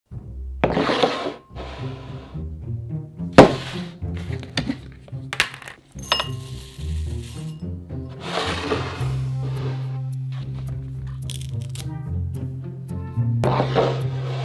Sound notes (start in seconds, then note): 0.0 quirky music playing in background throughout video; 0.6 bowl sliding